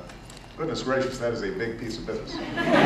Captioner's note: laughter